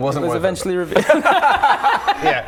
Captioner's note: bitter laughter